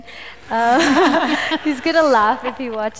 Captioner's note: laughter